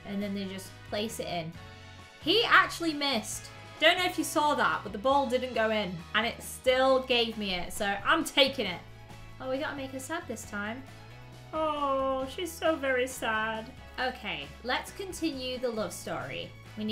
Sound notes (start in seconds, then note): none